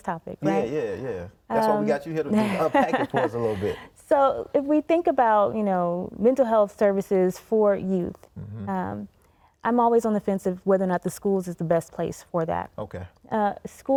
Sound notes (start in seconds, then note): 2.3 laughing